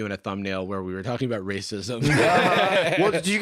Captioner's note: laughs